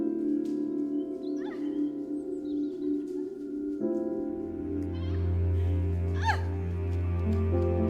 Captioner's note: gentle music; Kai laughing and yelling